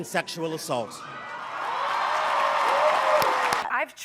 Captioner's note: crowd cheering and applauding